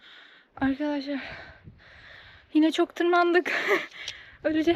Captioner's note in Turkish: iç çeker